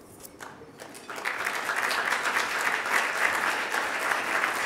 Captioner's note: audience applauding